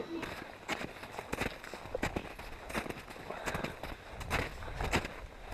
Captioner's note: footsteps in snow